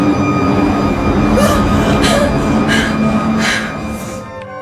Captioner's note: gasping for air